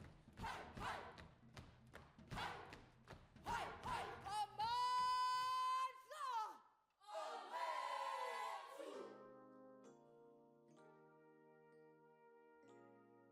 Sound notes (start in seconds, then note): 4.4 chants in Zulu; 9.0 slow relaxing music